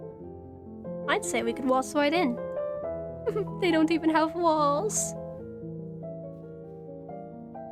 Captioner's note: giggles